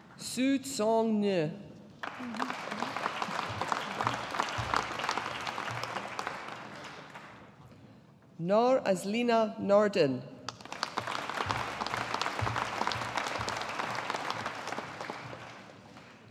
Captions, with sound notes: Su Tsong Ng. (AUDIENCE APPLAUDING) Nor Azlina Nordin. (AUDIENCE APPLAUDING)